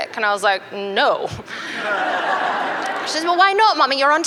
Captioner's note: laughter